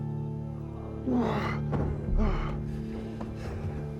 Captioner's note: grunting